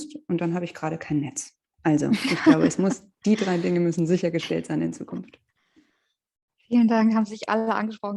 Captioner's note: laughs